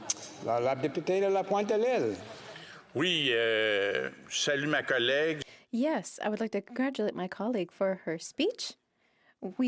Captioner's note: speaking French